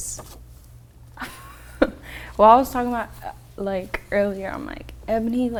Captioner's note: laughs